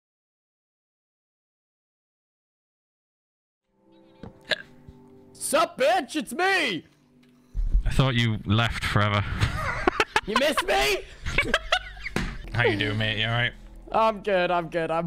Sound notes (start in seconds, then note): 5.2 in English; 9.2 laughing; 9.2 laughs